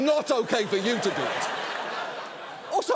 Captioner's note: studio audience laughing